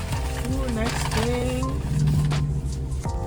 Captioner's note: bag crinkling